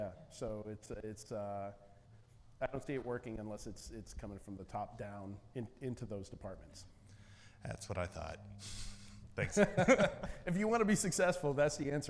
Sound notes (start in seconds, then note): 8.7 laughs